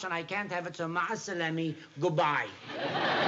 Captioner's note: non-english speech